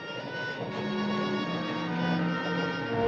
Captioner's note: train clacking